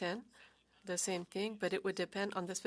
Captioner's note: speaking French